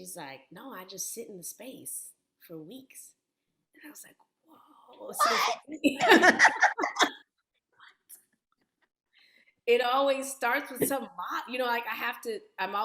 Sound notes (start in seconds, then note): 5.8 laughter